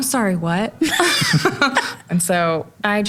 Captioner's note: laughs